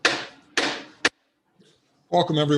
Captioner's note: sound of gavel banging